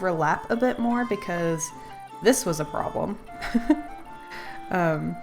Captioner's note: laughs